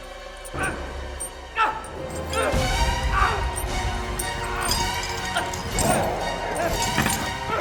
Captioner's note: dramatic music; Eric grunting